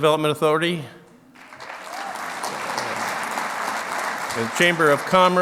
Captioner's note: clapping